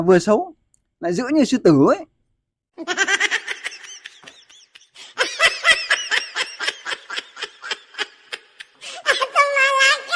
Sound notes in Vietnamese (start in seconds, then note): 2.0 Tiếng cười